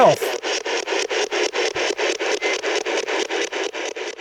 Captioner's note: static ticking